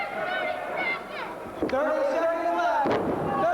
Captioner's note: crowd cheering